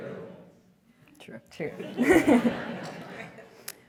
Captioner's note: laugh